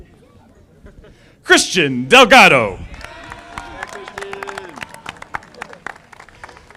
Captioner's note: audience applauding